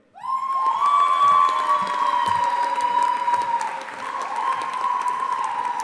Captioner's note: audience applauding and cheering